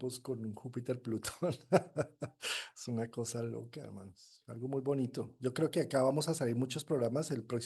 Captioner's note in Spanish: risas